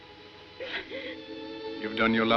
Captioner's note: sobs